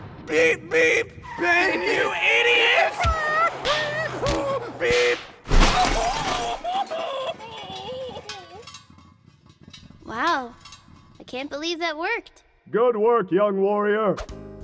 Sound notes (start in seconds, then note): 3.0 violent car chase noises; 5.7 car Crash screams!